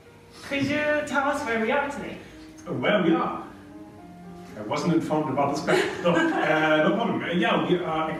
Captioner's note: laugh